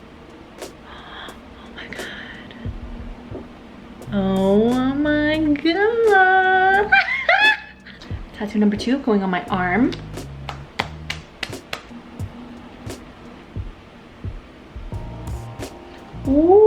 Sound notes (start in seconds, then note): 0.9 gasping; 6.8 laughing; 10.7 tapping; 12.9 gentle instrumental music